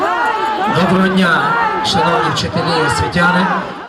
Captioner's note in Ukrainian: натовп гукає